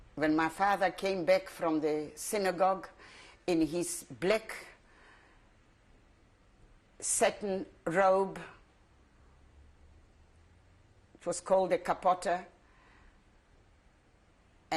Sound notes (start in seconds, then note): 4.8 pauses for 3 seconds